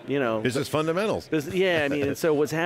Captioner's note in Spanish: risas